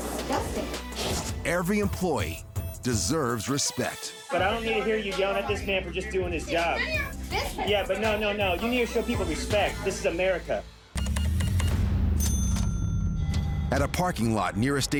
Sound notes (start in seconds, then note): 11.0 beeping; 12.0 cash register dings